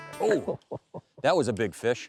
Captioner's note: laughing